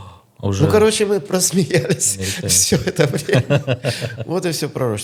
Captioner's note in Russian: смех